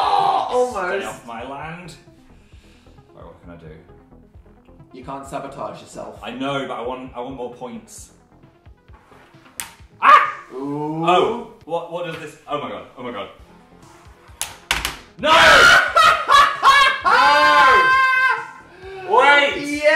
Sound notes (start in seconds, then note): 10.0 screams; 15.5 laughs